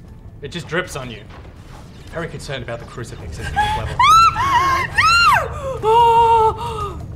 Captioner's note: screams multiple times